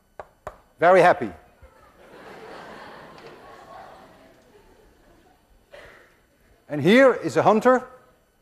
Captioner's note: class laughs